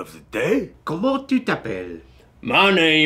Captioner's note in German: Französisch